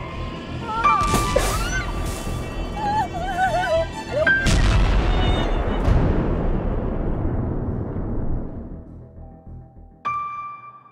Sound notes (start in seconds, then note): 0.6 screams; 2.6 groans; 3.8 rumbling